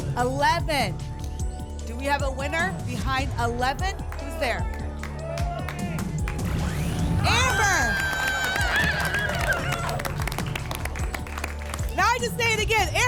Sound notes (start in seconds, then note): 5.3 cheering; 8.5 applause and cheering